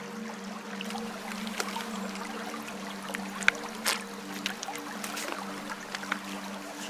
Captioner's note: river running